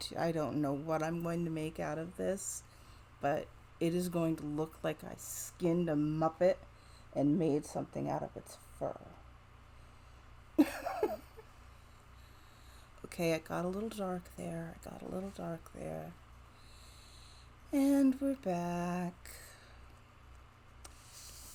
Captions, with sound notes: I don't know what I'm going to make out of this, but it is going to look like I skinned a muppet and made something out of its fur. [Giggles.] Okay, I got a little dark there, got a little dark there... aaaaaand we're back.